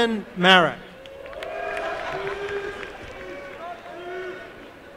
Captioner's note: applause and cheering